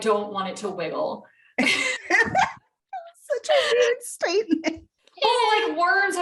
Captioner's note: more laughter